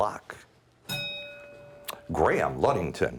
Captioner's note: bell rings